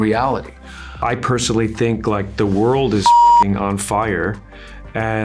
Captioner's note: beep